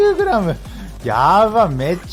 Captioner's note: laughs